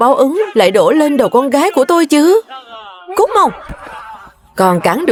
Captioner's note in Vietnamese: tiếng cười